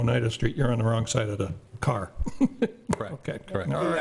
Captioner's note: laughs